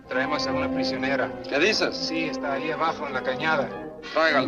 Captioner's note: soldier speaks Spanish; chatter in Spanish